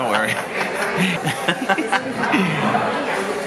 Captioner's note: laughs